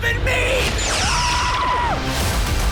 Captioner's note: Boimler screaming